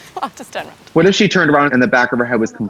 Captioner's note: laughs